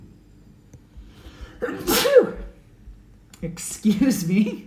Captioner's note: sneezes